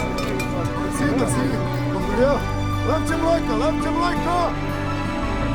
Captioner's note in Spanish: Hablando búlgaro